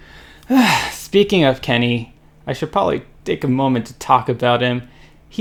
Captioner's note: heavy sigh